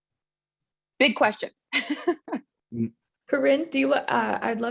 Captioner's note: chuckles